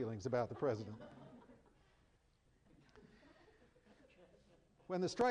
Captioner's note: chuckling